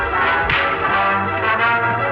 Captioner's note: pow!